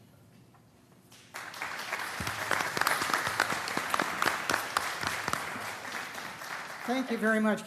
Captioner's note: applause